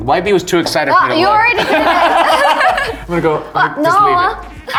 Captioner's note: all laughing